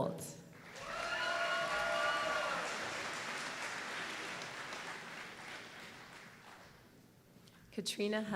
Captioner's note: applause